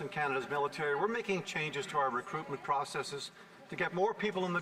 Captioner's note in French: voix de l'interprète